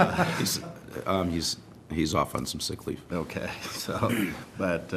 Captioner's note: laughter